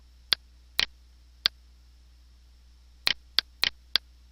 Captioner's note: clicking